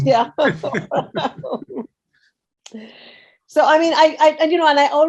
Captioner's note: both laughing